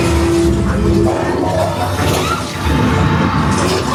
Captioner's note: scareactor faintly speaking; spooky music; guests screaming